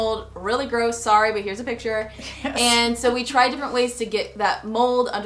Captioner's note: chuckles softly